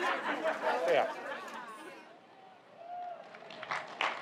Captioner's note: laughter